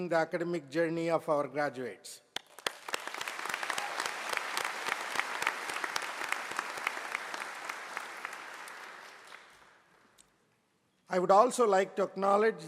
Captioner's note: applause